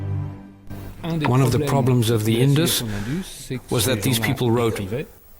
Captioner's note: French spoken audio